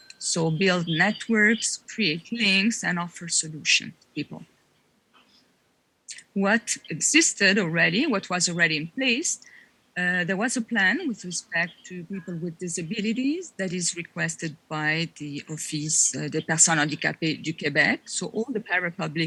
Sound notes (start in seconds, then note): 16.8 french